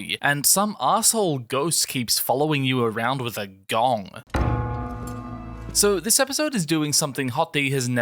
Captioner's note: gong